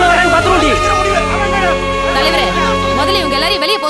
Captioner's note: loud indignant protests